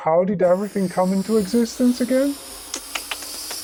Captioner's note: alien sounds